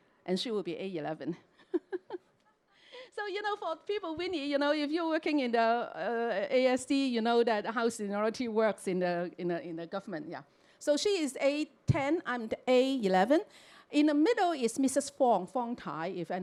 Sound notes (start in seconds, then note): 1.6 chuckles